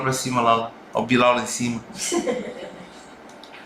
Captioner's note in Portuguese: risos